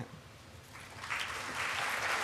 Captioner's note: applause